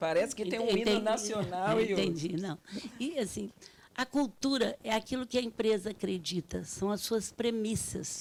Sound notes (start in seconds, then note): 2.5 speaking Portuguese